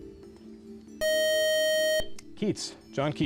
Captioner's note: beep